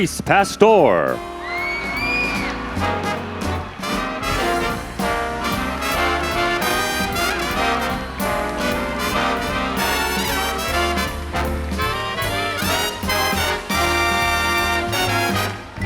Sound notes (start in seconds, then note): 5.1 applause